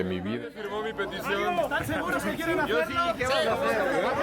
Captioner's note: athletes chatting before the start